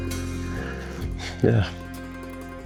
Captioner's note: sighs